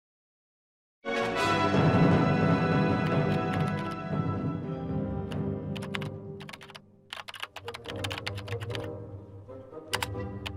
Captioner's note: keyboard clicking